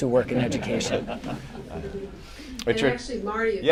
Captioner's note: laughter